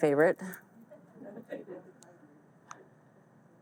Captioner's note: audience laughs